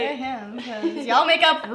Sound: laughs

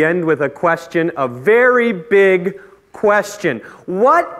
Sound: voice raises

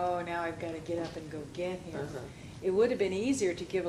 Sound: radio playing in background

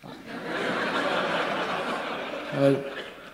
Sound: laughter

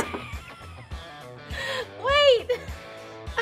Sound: laughs

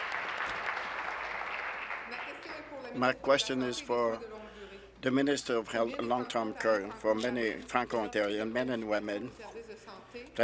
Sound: applause

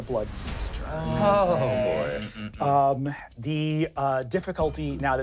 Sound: sighing

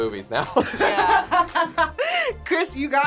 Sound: React laughs

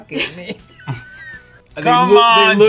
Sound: both laugh

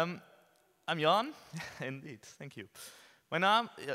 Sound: chuckles

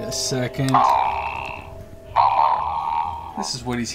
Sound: monster chanting

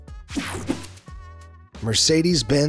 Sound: swooshes

